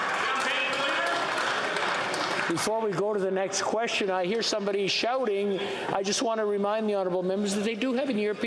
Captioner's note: yelling